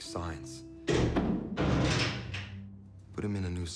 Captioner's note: door closes and locks